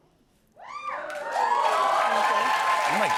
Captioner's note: cheers and applause